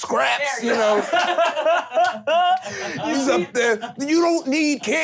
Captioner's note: laughing